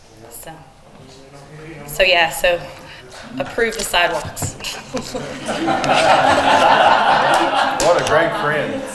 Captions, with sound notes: - So. - Not gonna say no if they don't. - So yeah, so, approve the sidewalks. (chuckles) (attendees laughing) - What a great friend.